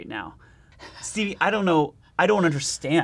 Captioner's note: laughing